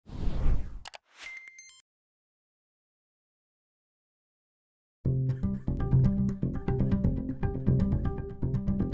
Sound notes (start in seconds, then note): 0.3 electronic whooshing and beeping; 5.4 gentle, relaxing music